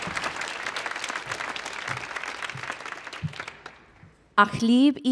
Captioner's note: audience applause